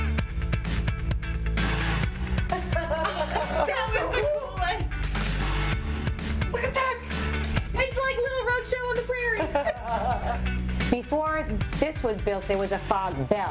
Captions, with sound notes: [LAUGHTER] THAT WAS THE COOLEST.